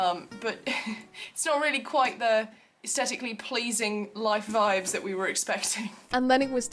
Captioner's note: chuckles